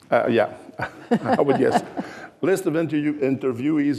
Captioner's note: laughing